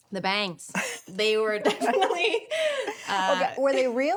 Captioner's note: laughs